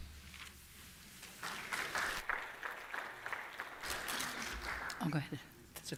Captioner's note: applause